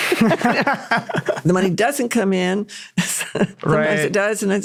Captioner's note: laughing